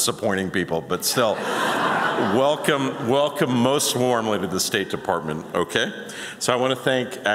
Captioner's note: laughter